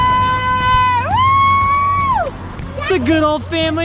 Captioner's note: cheering